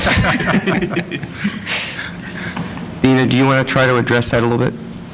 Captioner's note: laughter